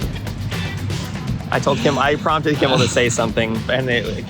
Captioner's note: laughing